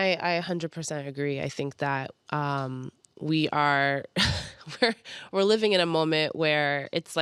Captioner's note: chuckles